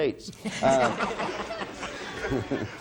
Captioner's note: audience laughs